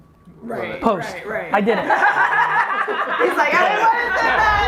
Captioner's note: group laughs